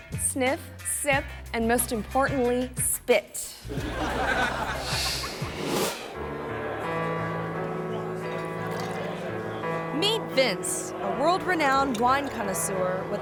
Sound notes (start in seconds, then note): 3.7 audience laughing; 6.2 gentle music